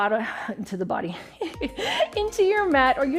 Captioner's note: chuckles